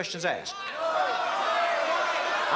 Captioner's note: crowd clamoring